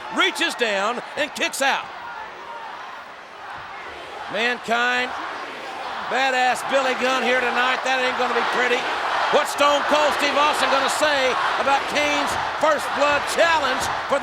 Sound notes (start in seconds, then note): 1.9 crowd chanting "Rocky sucks!"